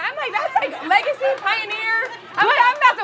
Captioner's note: audience chuckling